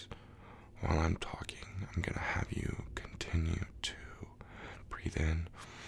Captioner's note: inhale